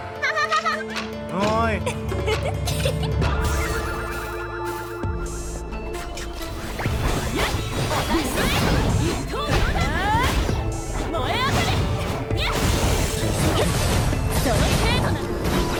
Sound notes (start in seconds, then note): 0.2 giggling; 8.2 yelling; 12.8 yelling